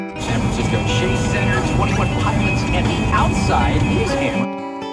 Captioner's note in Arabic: تشغيل الراديو في الخلف